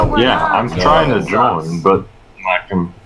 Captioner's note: sounds of confirmation